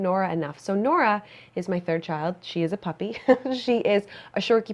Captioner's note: chuckles